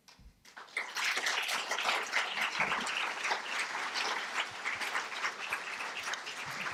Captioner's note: applause